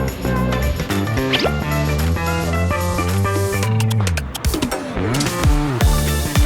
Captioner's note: enthusiastic AEONG